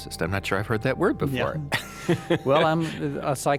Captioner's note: laughs